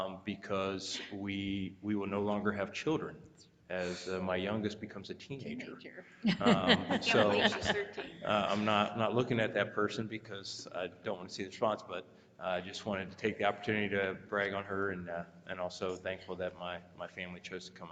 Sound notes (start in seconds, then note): 6.2 laughing